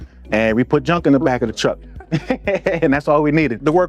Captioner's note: laughs